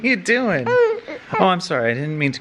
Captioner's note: whines